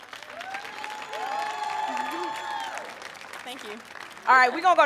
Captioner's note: crowd cheering